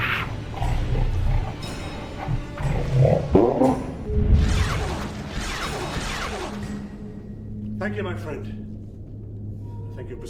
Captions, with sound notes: (Jarova speaking in foreign language) (laser blasts) Thank you, my friend.